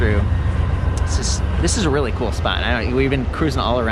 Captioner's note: train roars past